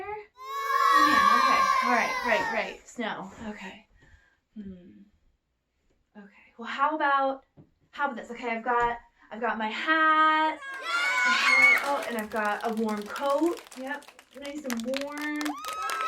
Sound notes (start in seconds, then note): 10.6 kids cheer; 13.5 kids clap; 15.2 kids cheer; 15.2 kids clap and cheer